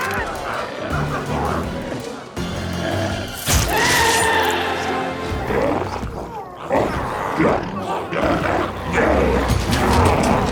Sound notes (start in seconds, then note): 0.8 dramatic music continues; 4.2 glowzie shouts